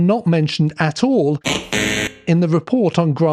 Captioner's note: error sound